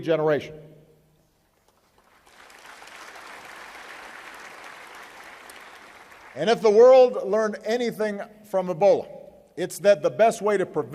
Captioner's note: applause